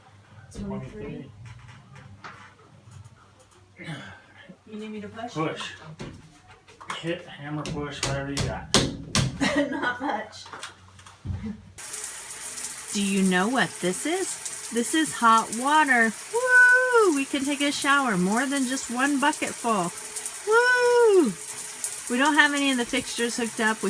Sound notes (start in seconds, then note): 9.4 laughs